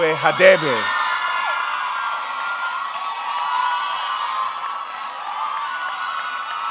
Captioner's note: audience cheering; audience clapping